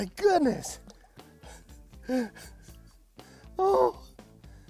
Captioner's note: chuckles